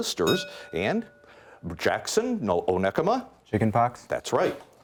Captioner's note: bell rings